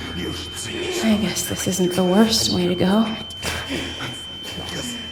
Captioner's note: inner thoughts, ear whine fades in; choked wheezing sounds